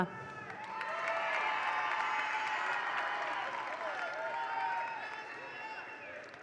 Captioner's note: attendees cheer; attendees applaud